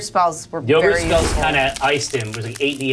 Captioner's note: yogurt spell blasting